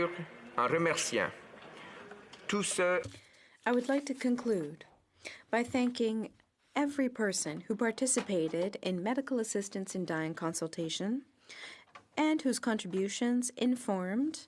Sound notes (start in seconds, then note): 2.2 speaking French